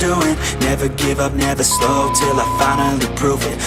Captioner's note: timer beep